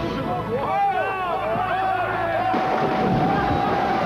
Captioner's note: crew yells